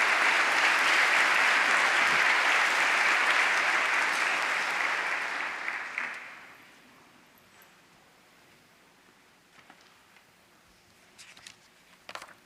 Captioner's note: applause